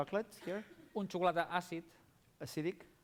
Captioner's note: non-english speech